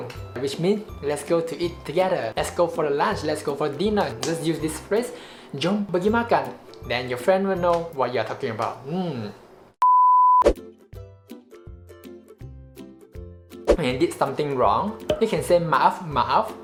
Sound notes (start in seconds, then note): 5.2 inhale